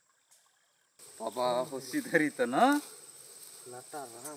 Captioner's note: speaking their local language